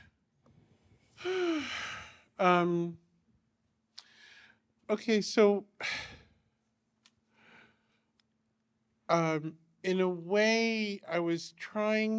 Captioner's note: sighs